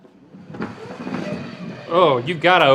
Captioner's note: puck sliding